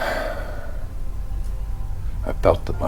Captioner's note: Jim sighs